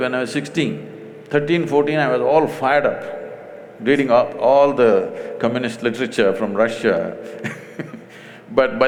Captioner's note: laughs